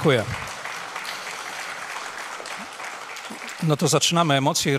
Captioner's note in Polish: oklaski